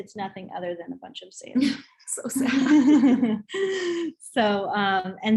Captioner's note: both laugh